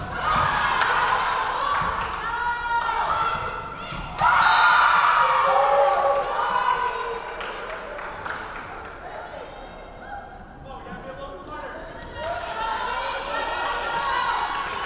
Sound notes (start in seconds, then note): 0.1 crowd cheering; 4.7 referee whistling